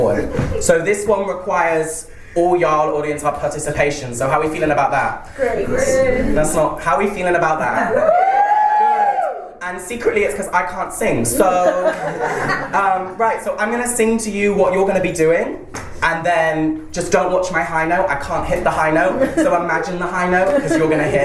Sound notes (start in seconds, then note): 7.9 audience cheers; 13.2 laughter